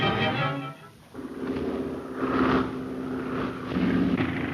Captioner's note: engine droning